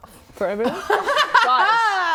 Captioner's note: laughing